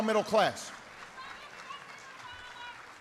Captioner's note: applause